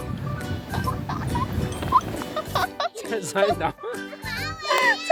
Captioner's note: laughter